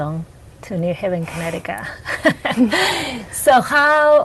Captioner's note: chuckles